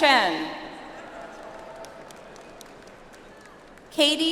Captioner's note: audience applauds